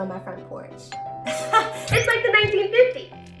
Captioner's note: door bell rings